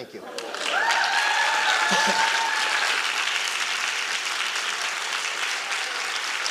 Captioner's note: audience applauding and cheering